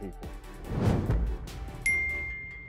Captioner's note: air whooshes; bell dings